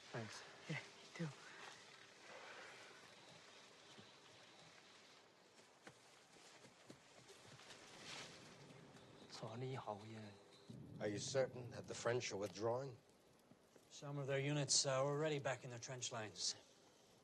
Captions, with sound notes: Thanks. Yeah, you too. [MANDARIN] Are you certain that the French are withdrawing? Some of their units are already back in their trench lines.